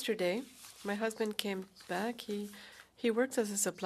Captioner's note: speaking french